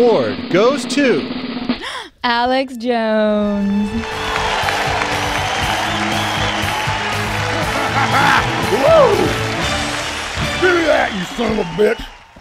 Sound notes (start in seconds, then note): 0.1 drum roll; 3.9 applause